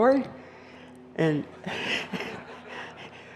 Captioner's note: chuckling